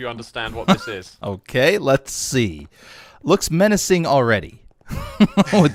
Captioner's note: chuckles